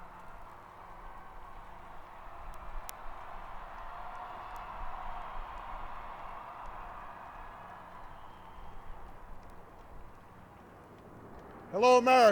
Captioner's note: cheering; applause